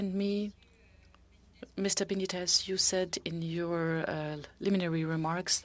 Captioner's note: speaking French